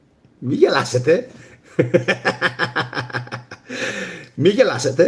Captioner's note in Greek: γέλια